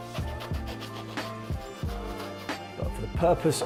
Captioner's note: knife slicing